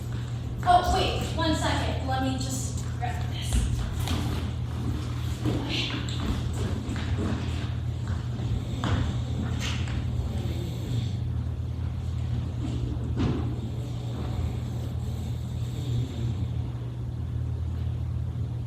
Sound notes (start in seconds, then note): 8.4 snoring